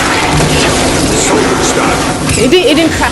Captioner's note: video game sound